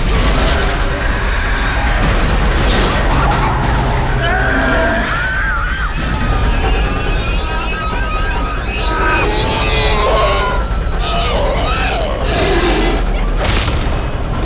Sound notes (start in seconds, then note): 0.2 glass shattering; 0.2 screeching; 4.2 Mattie screaming; 9.4 demon groaning; 9.4 static crackling